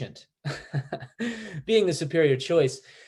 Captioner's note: Chad laughing